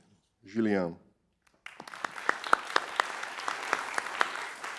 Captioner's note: applause